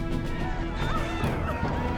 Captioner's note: shouts and screams